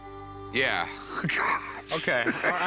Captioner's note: laughter